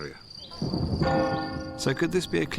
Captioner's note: thunder rumbles; church bell tolls